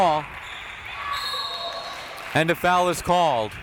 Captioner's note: whistle tweeting